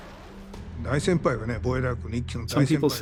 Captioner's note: speaking japanese